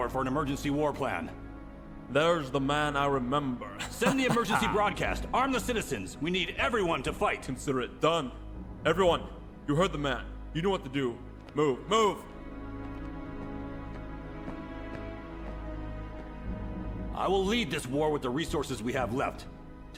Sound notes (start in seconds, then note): 3.7 laughing; 13.2 dramatic music